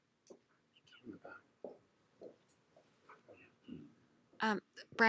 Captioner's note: shuffling and whispering